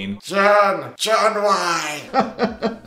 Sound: groaning incoherently; laughing

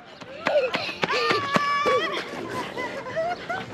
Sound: running sounds

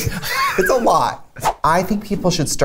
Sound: laughs

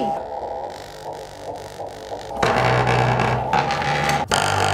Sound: speakers vibrating

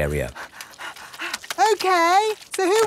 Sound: panting

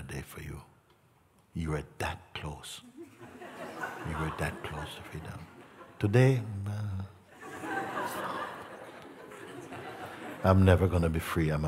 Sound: laughter

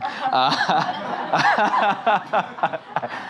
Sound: laughing

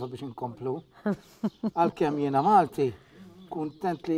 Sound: laughs

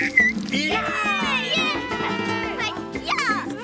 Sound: cheers

